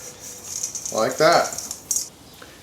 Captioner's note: seeds clack against metal bowl